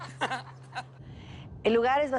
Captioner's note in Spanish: Risas